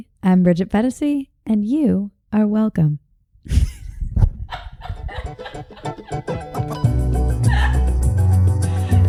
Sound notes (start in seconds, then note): 4.5 laughs; 5.1 upbeat music